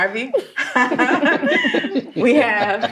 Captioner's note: loud laughter